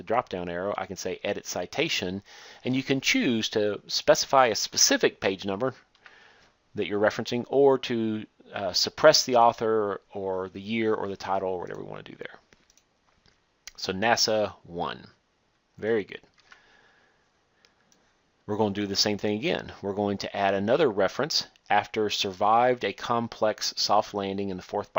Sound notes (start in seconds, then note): 12.6 click